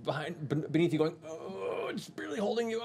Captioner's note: grunt of effort